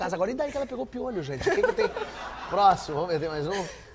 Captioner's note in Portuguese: risos